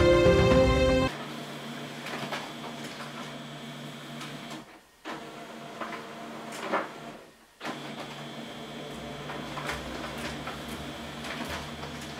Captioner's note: silence except for the printer